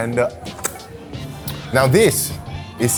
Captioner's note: licking fingers